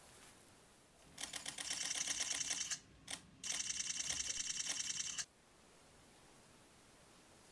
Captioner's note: camera shutters and flashes